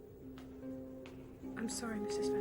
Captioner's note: footsteps approaching